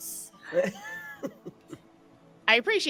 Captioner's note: all laughing